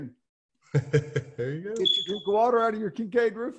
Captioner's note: laughing